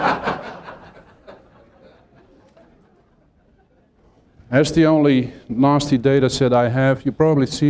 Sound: laughter

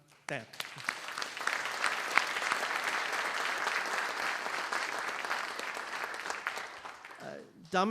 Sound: applause

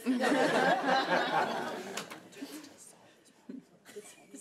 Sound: laughing

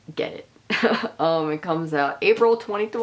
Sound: laughing

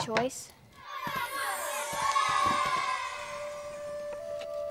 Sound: crowd cheering

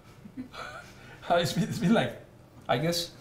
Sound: all laughing

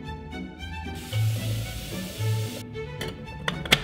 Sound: water cascades; lid clinks

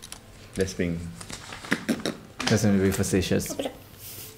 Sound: blows raspberry

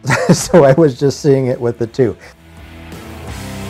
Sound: laughs; driving rock music

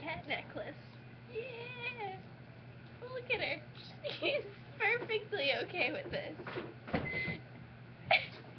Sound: microwave beeps

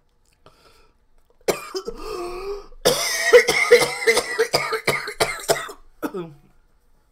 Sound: massive coughing

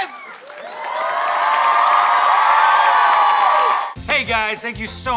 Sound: audience cheering

